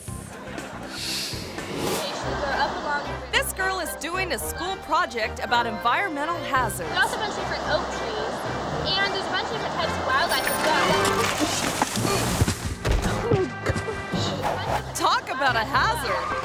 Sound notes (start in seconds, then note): 10.2 bike bell rings; 10.2 bike crashing